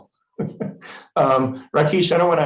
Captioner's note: laughs